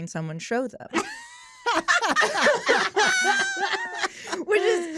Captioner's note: laughter